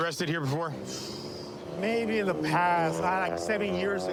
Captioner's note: exhales sharply